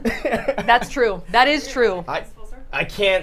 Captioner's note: laughter